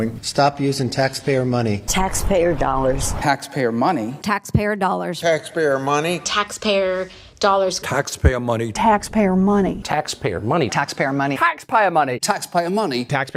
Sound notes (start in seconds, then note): 3.2 Marco Rubio, sternly